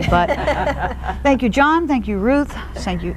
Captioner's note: laughter